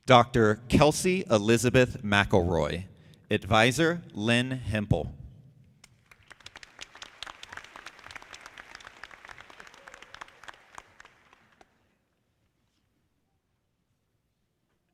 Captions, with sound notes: Dr. Kelsea Elizabeth MacIlroy. Advisor, Lynn Hempel. (audience clapping)